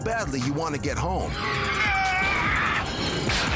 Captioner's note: men scream